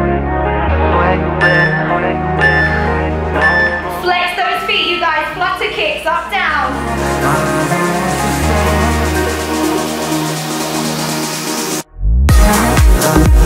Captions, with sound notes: (phone beeping) Flex those feet. flex the feet, up, down.